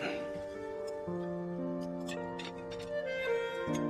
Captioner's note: clears throat